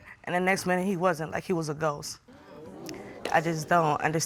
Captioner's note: audience exclaims